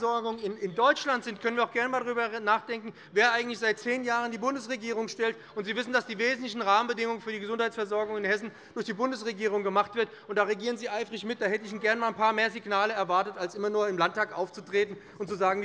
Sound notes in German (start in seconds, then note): none